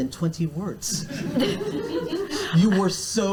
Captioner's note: audience laughs